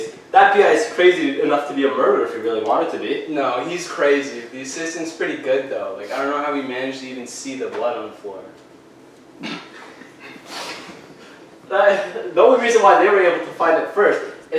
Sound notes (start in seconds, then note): 9.7 officer 1 laughing